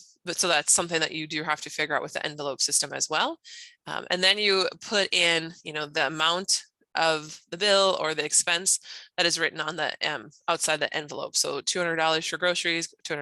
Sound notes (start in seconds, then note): none